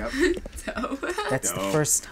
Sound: laughing

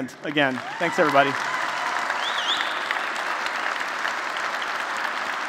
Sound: applause

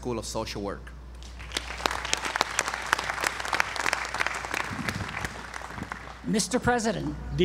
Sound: applause

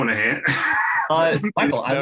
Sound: laughs

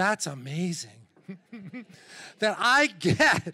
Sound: chuckles

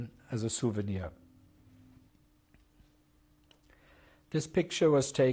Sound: pauses for 3 seconds

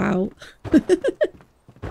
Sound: laughs

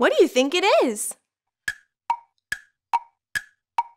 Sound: clock ticks

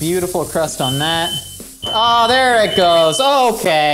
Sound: fire alarm beeping

